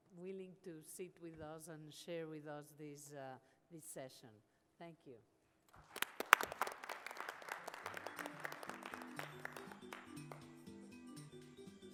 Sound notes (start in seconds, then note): 5.7 applause; 9.1 light, upbeat music